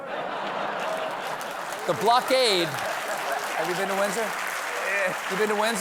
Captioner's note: laughter; applause